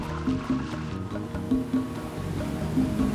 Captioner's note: wind blowing sand